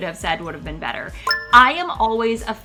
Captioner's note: retro gaming beep sound